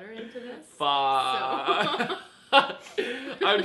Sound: laughs

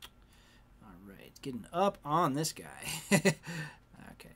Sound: chuckles

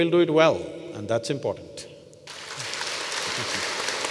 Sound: applause

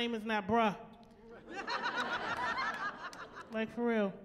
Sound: laughing

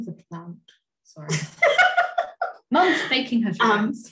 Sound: laughs

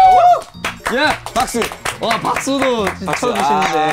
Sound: staff are clapping

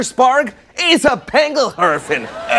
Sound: speaks in foreign language

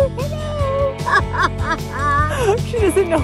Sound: laughing

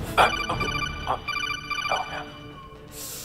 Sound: codec sound

